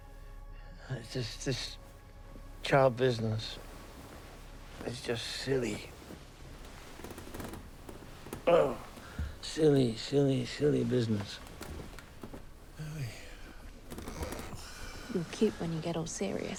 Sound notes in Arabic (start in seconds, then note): 8.4 همهمات; 11.3 يتنهد أوسكار